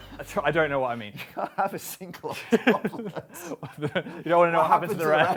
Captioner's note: laughing